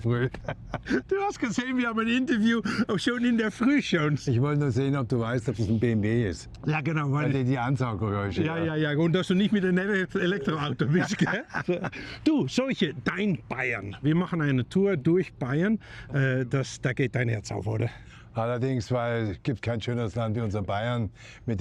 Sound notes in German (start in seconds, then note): 10.2 gelächter